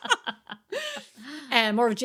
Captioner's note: laughing